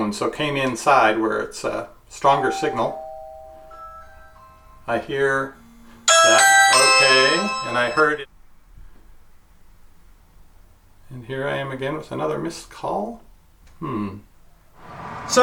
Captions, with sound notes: so came inside where it's a stronger signal. (ringing) I hear-- (ringing) Okay, and I heard it. And here I am again with another missed call. Hmm.